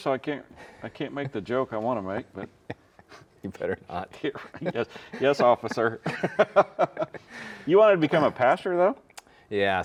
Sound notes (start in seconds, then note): 2.1 both chuckling; 6.5 both laughing